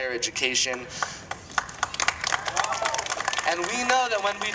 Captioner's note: applause